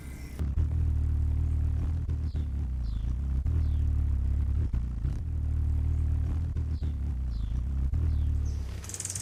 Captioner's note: bird wings flapping